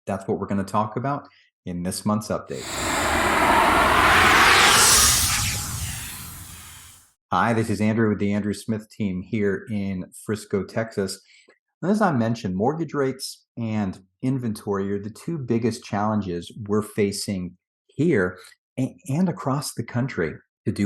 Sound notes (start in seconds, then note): 2.6 air whooshing